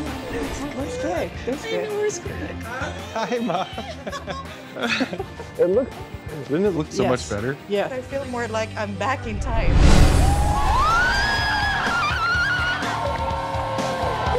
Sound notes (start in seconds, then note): 9.9 crowd cheers